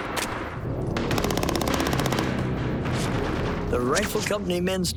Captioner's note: gunfire